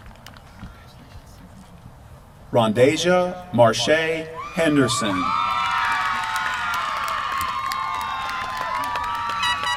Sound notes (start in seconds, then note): 5.4 applause